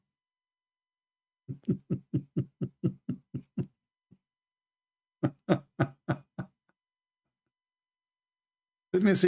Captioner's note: Ketawa